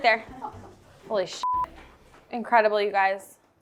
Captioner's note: beep